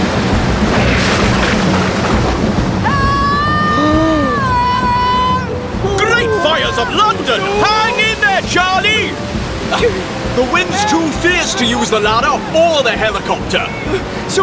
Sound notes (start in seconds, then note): 3.1 straining; 4.1 gasp!